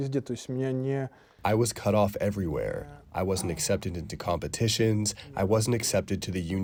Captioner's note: through translator